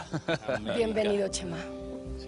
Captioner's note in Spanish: Risas